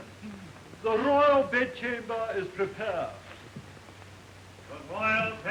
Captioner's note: clears throat delicately